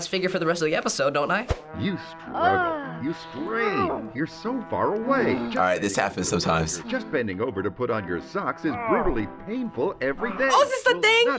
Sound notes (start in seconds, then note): 1.6 voice-over; 6.7 voice-over